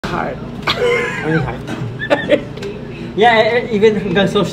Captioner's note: laughs